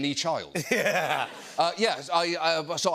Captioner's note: laughter